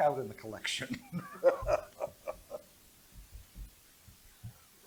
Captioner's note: laughter